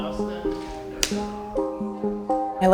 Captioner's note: clapperboard sound